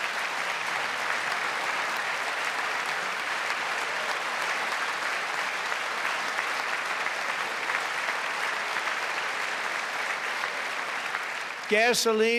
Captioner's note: applause